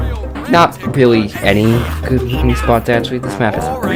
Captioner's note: ahhggghg enugghffff